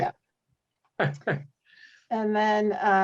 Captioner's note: laughs